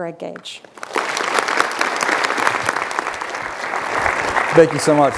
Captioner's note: applause